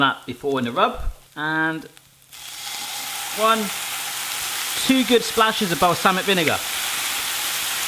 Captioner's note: sizzling